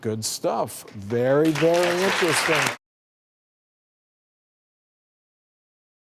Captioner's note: applause